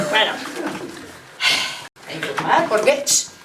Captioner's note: laughs